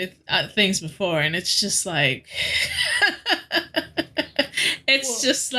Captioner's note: laughing